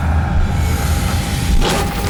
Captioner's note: none